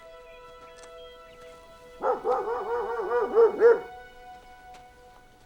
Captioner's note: dog barking